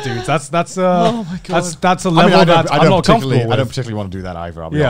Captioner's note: murmurs